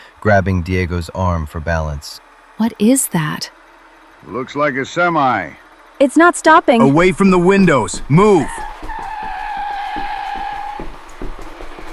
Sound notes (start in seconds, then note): 4.6 alert